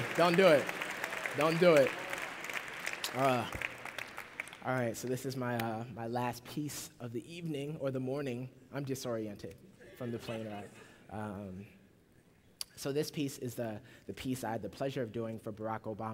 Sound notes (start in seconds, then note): 4.5 applause; 10.9 laughter